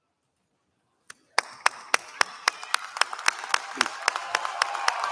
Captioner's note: applause